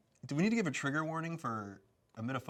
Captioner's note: none